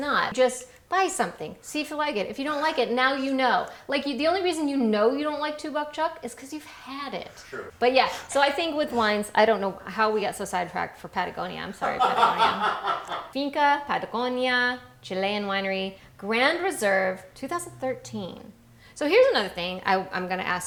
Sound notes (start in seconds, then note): 11.8 laughing